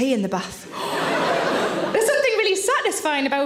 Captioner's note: audience laughs